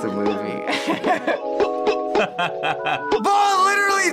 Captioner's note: laughs